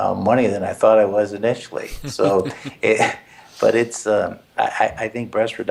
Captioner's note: laugh